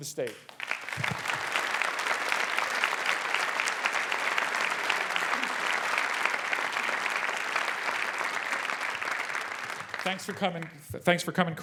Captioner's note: applause